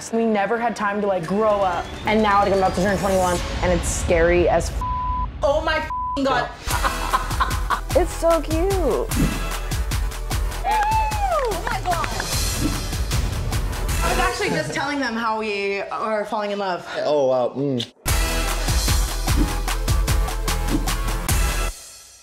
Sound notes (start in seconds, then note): 4.8 beep; 6.7 laughing; 10.5 people cheering